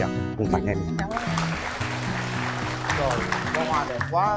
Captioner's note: applause